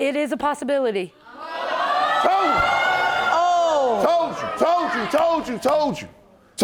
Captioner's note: audience gasping